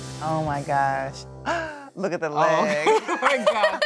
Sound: gasps; laughs

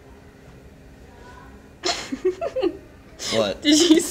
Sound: giggles

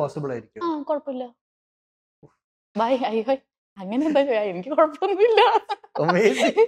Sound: laughs

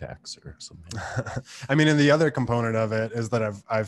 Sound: laughs

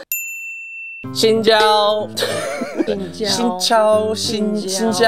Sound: Vietnamese

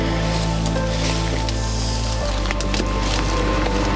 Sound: branches breaking

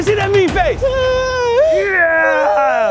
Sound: whimpers

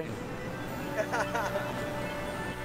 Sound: laughs

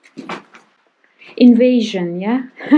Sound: laughing

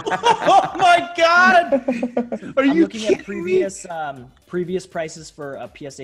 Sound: laugh

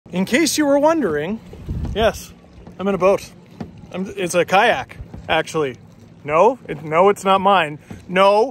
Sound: wind noises

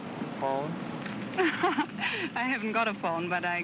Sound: laughs

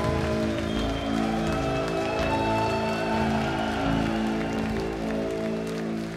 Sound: audience cheering loudly

